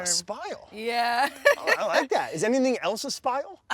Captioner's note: laughs